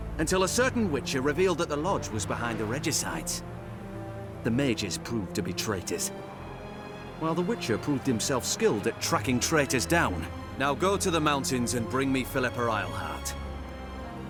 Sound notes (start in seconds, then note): none